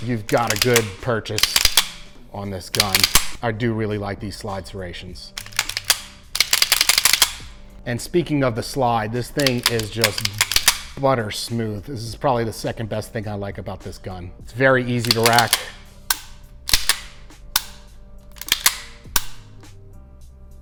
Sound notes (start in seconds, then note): 5.3 slide clicking repeatedly; 16.8 slide clicking repeatedly